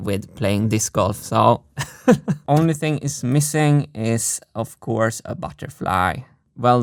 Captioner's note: chuckles